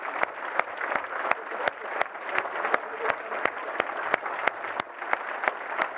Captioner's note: applause